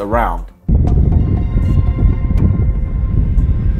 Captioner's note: wind blows